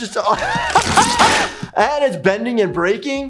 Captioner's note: laughs; snapping